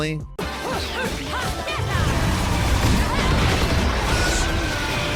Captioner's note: Bayonetta shouting